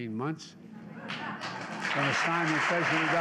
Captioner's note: laughter and applause